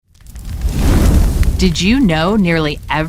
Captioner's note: fire crackles and whooshes